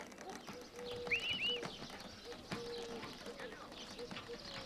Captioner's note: owl hooting